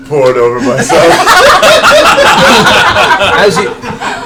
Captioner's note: all laugh